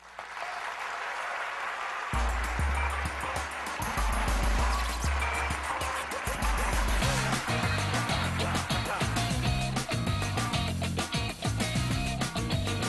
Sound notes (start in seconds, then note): 0.7 applause